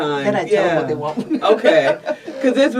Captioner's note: laughs